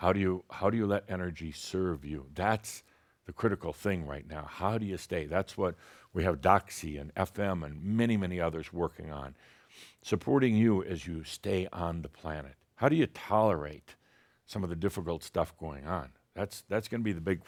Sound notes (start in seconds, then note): none